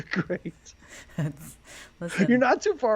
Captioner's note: laughs